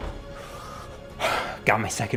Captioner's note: exhales